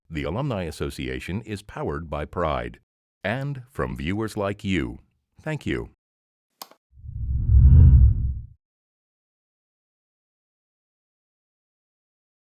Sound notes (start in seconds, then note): 6.6 clicking; 7.0 air whooshing